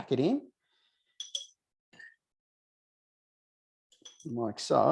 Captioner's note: bowl clinking; jar clinking; jar clinking